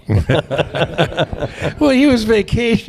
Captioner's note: laughter